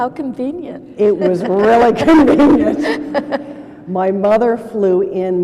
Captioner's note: laughter